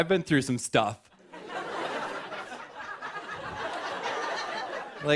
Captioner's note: laughter